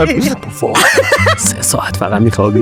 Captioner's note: laughs